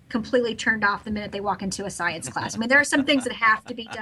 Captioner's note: laughs